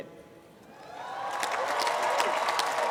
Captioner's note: cheering, applause